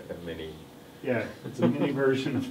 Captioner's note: laughs